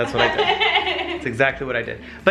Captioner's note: laughs